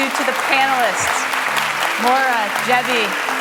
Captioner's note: applause